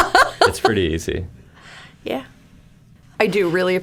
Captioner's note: laughing